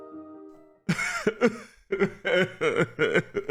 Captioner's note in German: weinen